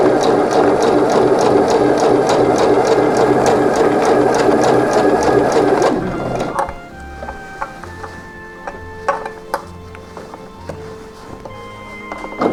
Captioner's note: clips rustling